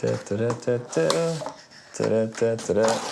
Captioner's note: humming